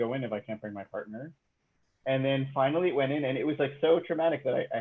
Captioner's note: none